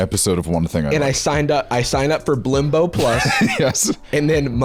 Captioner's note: laughs